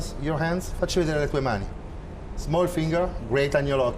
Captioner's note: speaking Italian